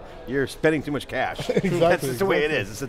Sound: laughs

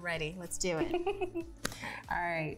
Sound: laughs

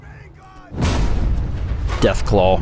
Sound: boom!!!!

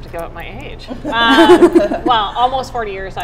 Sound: laughing

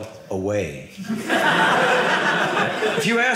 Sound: audience laughing

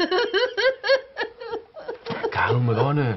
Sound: bursts with more tears

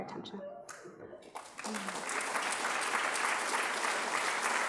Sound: adience applauding

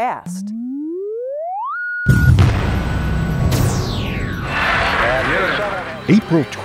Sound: sound Effects

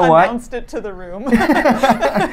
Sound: laughs

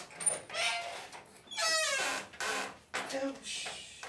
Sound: door creaking

